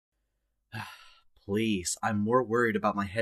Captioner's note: sigh